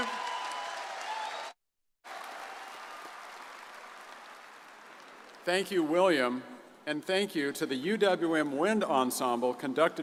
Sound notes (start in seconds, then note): 2.0 audience cheers and applauds